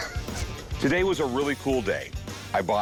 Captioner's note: chuckles